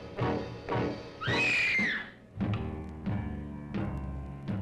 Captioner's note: Jane screams